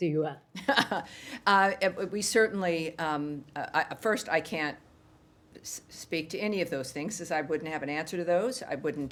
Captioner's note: laughter